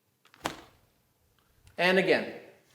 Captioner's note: snapping